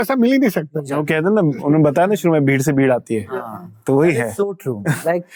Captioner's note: speaking in Hindi